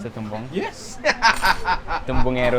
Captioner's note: laughs